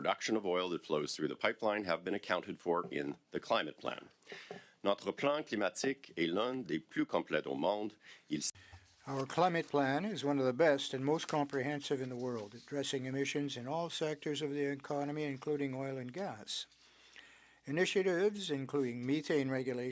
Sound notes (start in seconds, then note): 9.0 speaking French